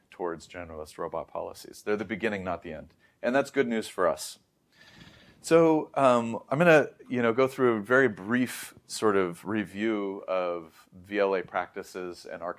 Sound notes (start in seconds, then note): 4.7 inhales